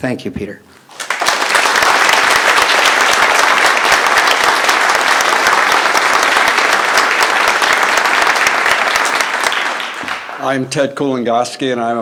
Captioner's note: applause